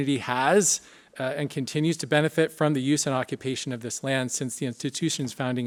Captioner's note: none